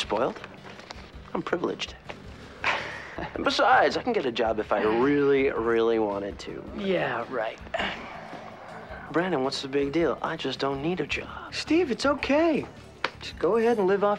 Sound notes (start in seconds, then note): 2.6 laughs